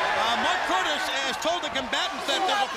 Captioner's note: crowd chatter